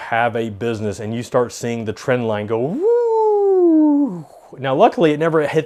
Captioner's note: whooshing